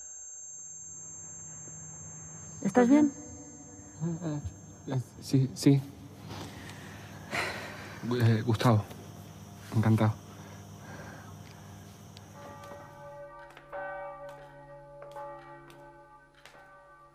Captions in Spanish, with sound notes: ¿Estás bien? Sí. Gustavo. Encantado. (Campanadas y pasos)